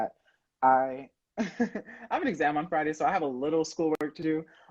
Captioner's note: laughing